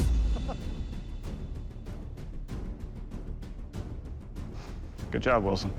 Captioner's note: laughs